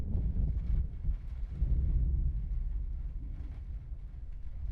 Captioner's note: thunder rolling